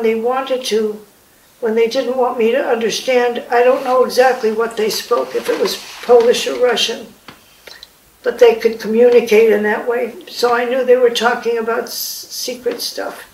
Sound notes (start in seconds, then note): none